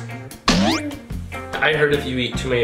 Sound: boinking

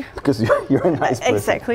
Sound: laughs

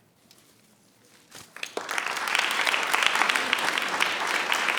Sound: audience applauds

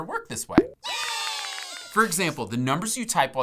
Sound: cheering

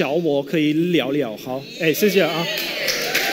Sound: speaking in Mandarin; applause

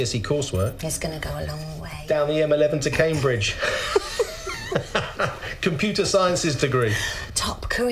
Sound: laughs

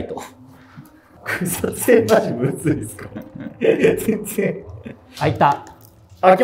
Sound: laughing

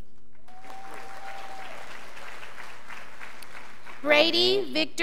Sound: crowd applauding

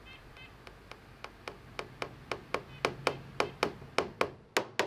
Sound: hammer tapping

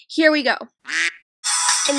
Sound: quack

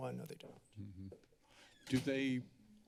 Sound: door closes

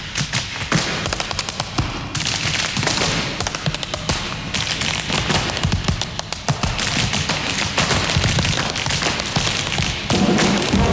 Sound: tap dancing

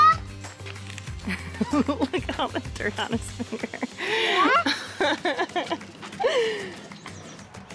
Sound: laughing

